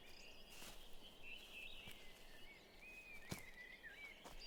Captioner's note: birds chirping